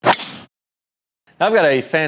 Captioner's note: golf ball thwacks